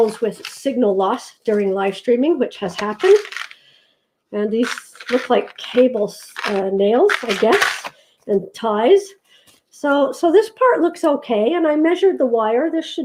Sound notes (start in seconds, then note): 7.0 paper shuttering sound